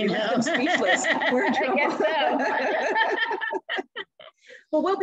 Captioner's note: laughter